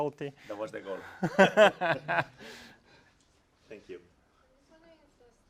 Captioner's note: laugh